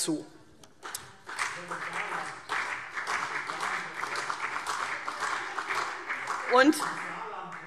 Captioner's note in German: Beifall CDU und BÜNDNIS 90/DIE GRÜNEN